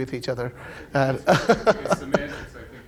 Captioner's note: laughing